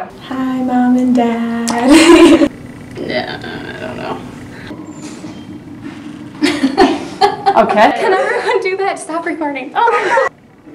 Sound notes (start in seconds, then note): 1.8 giggle; 6.4 laugh